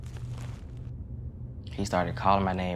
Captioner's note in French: bruits de pas